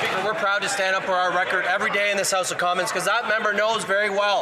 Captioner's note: some Applause